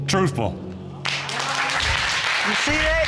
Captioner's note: audience applauds